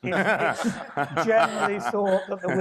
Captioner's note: panelists laughing